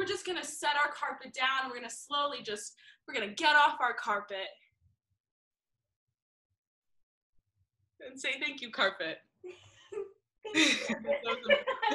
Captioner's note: laugh